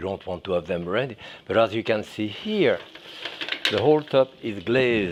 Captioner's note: eggs sizzling